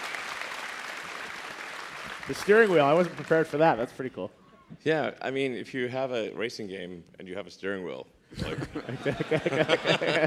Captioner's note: applause